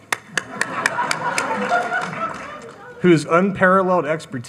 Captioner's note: audience chuckling